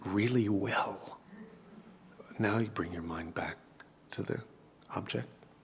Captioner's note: laugh